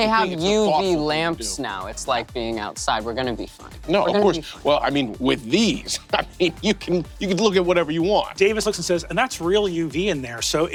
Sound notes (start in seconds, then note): none